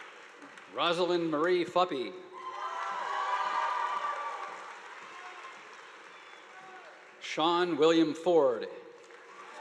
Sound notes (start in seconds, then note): 2.4 audience applauding